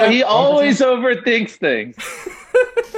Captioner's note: laughs